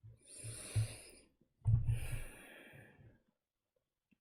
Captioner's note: deep breath